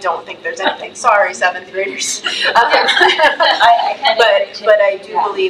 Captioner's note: laughs